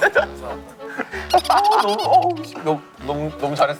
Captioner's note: laughing